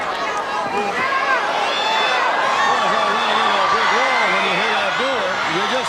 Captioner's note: crowd chatter; crowd cheering